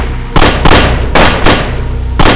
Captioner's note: gun shooting faster